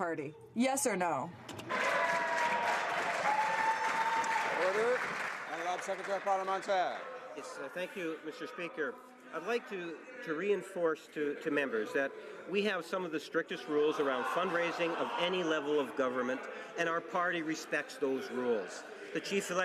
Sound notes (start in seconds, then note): 5.1 some Applause